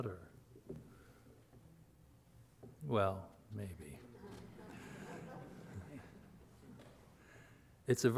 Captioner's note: audience laughs